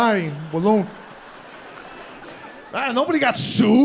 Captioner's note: audience laughing